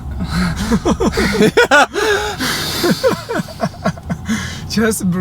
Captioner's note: everyone laughing and breathing